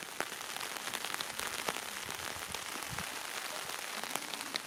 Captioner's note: applaue